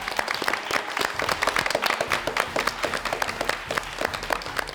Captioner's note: all applauding